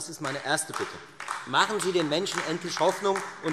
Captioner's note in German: Vereinzelter Beifall Freie Demokraten und AfD